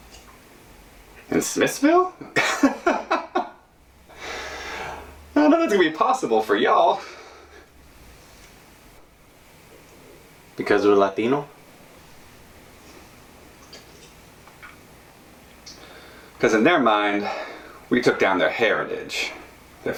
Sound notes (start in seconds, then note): 2.4 laughing